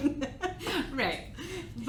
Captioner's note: laughs